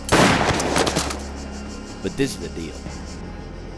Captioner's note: gun blasting